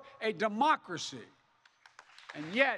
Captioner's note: applause